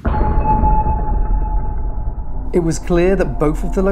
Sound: eerie beeping

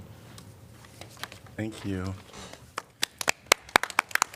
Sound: applause

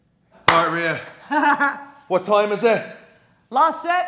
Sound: laugh

